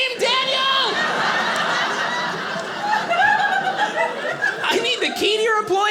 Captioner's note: audience laughing